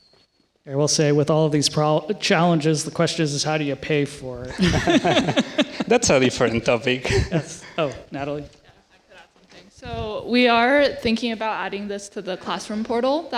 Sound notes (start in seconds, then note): 4.4 laughing